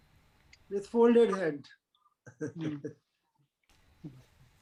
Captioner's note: laughs